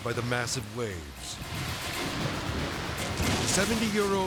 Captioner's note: waves exploding; edgy dramatic music